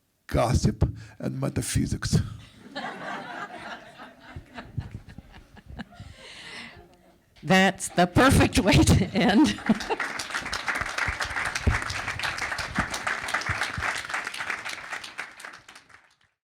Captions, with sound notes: "gossip and metaphysics." (audience laughs) - That's the perfect way to end. (audience applauds)